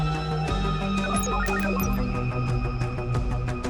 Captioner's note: computer beeps